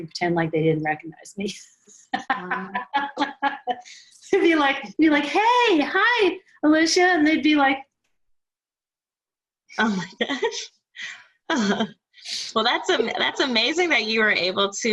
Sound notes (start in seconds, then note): 2.1 laughs